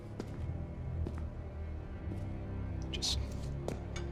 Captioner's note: footsteps